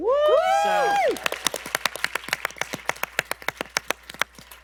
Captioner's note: applause